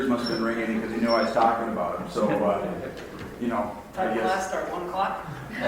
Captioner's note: man laughs